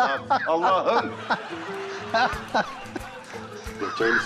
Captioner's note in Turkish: Gülme sesi